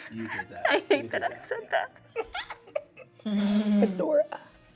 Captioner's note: laughing